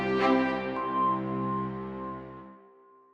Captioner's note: chime